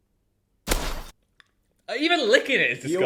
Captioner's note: glass crunching